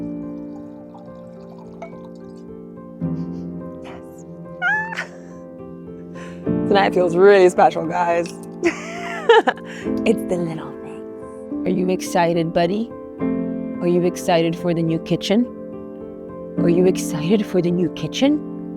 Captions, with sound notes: (liquid pouring) Tonight feels really special guys. (person laughing) It's the little things, are you excited buddy? Are you excited for the new kitchen? Are you excited for the new kitchen?